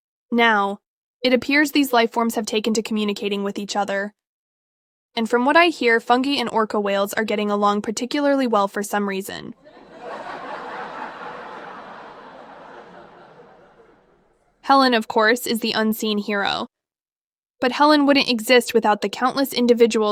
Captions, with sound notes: Now, it appears these lifeforms have taken to communicating with each other. And from what I hear, fungi and orca whales are getting along particularly well for some reason. [crowd laughs] HELEN, of course, is the unseen hero. But HELEN wouldn't exist without the countless individuals